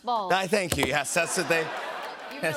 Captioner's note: laughter